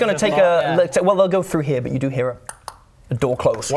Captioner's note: click clock